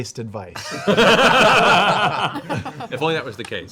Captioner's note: laughter